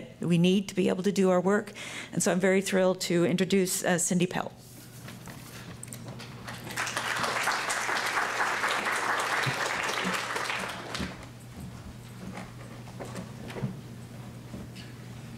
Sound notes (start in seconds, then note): 9.0 applause